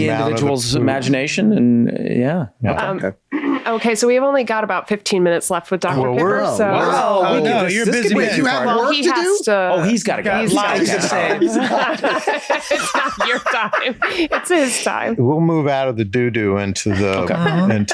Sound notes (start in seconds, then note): 5.9 Charlie, Rob and Glenn all moaning and complaining; 10.5 all laugh